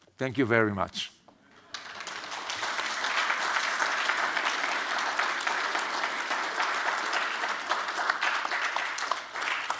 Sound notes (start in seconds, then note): 1.5 audience clapping